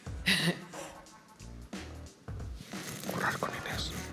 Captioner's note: whispering